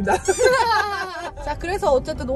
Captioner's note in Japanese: テヘッ